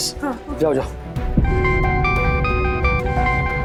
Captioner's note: phone ringing